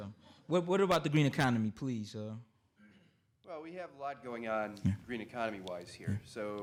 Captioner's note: none